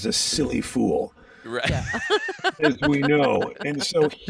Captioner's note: laughing